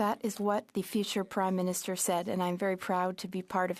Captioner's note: speaking French